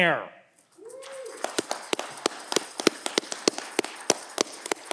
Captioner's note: audience cheering